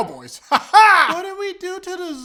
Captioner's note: weird laughing